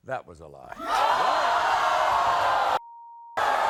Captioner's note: audience gasping